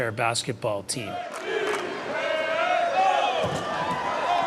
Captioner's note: fans chanting